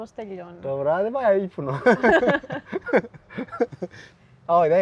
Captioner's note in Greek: γέλια